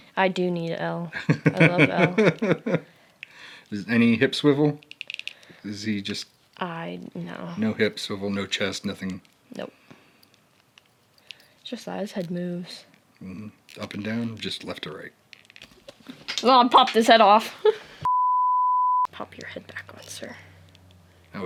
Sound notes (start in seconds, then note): 18.0 beep